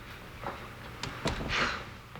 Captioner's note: door closes